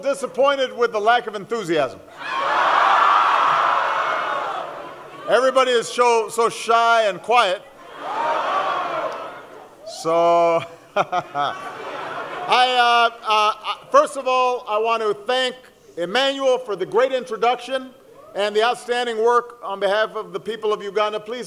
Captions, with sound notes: disappointed with the lack of enthusiasm. Everybody is so shy and quiet. So -- [Laughing] First of all, I want to thank Emmanuel for the great introduction, and the outstanding work on behalf of the people of Uganda.